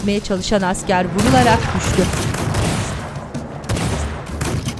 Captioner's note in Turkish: Silah sesleri